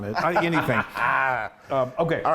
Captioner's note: laughing